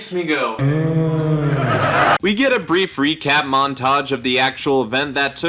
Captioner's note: uhg